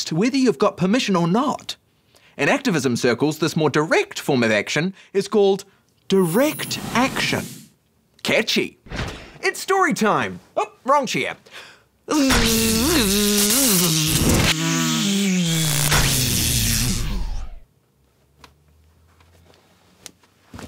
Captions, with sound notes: whether you've got permission or not. In activism circles, this more direct form of action is called — Catchy. It's story time. Oh, wrong chair. (ELECTRICITY ZAPS) (MIMICS ELECTRICITY ZAPPING)